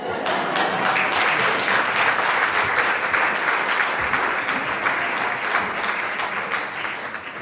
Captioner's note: crowd : Clapping hands